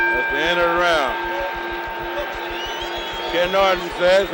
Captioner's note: bell sounds